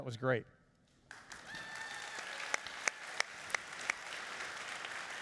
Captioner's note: applauding and cheering